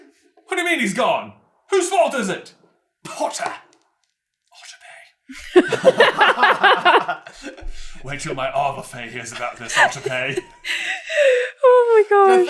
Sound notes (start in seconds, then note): 5.3 laughter; 9.3 cracking up